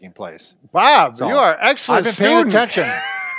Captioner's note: laughs